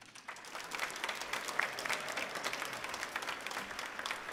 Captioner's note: audience clapping